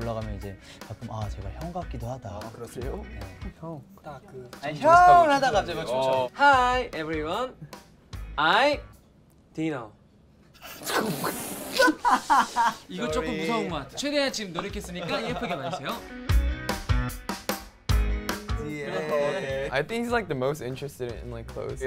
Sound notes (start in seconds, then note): 11.7 laughs; 16.2 cheerful music